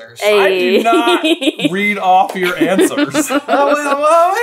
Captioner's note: laughing